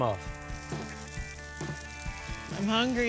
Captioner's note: sizzling